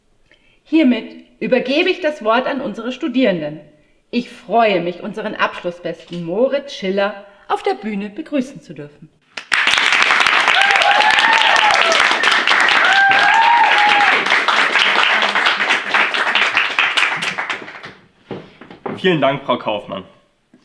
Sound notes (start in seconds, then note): 9.3 applause